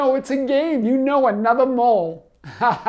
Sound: laughs

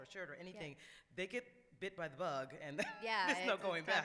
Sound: laughs

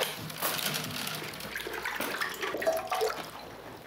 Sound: water splashes

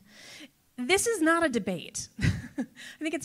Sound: chuckles

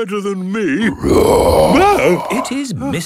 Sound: loud roar

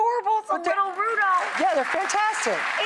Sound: audience applause

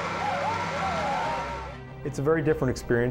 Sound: cheers

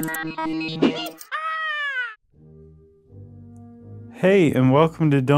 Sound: electronic music; high pitched shout

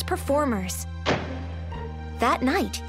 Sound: door slams

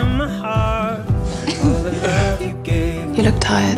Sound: laughing

